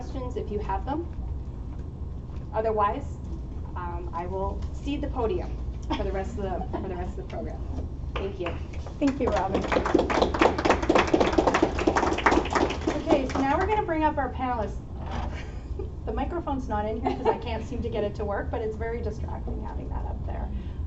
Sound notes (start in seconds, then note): 10.3 applause